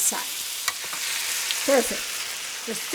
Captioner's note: pan sizzles